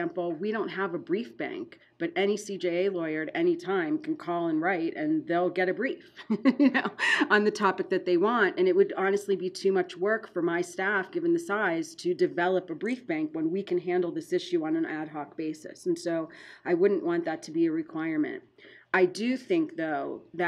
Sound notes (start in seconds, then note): 6.2 laughing